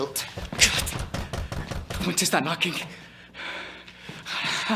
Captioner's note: knocking within